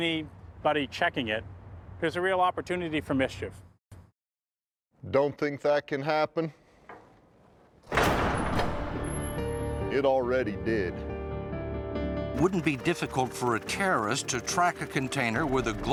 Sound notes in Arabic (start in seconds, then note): 6.1 يُغلق الباب بقوة; 7.0 موسيقى درامية